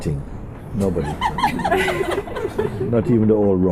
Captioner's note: laughter